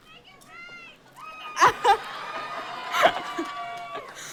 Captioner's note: cheering